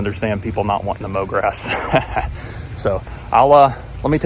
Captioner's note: laughs